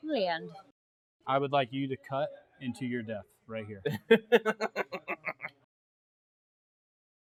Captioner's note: goblin chortle